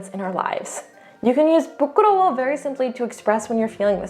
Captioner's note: speaking in Korean